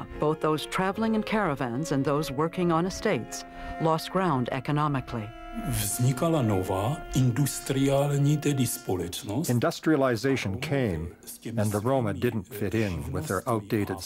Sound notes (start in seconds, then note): 6.4 speaking Czech